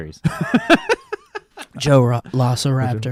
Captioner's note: laughing